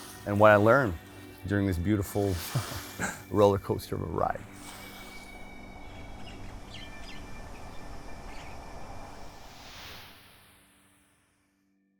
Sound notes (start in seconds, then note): 2.4 chuckles; 4.4 light airy music; 4.9 birds chirping; 8.3 air whooshes